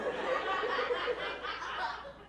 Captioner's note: laughter